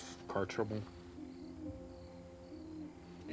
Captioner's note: crickets chirping; owl hooting